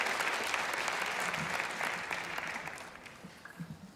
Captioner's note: applause